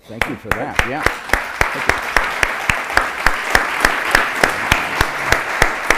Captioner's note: applause